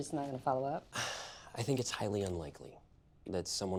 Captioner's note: sighs